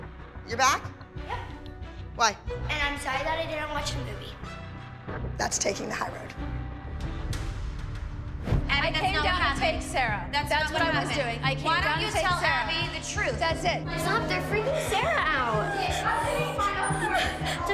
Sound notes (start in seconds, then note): 16.0 shouting; 16.8 crying